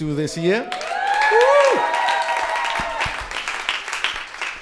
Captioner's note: crowd cheering